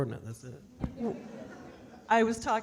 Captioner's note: audience laughing